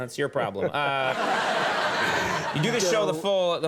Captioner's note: crowd laughing